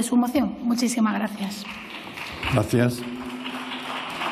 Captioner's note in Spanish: Aplausos